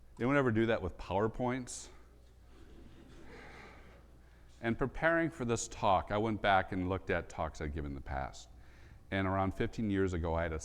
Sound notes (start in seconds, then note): 3.0 audience laughs